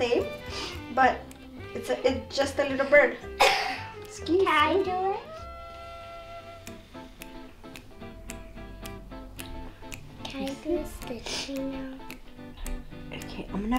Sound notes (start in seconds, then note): 3.4 coughs